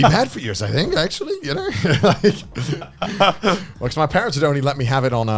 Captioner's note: laughs